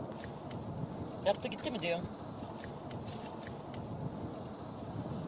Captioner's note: non-english speech